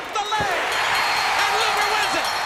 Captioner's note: bell ringing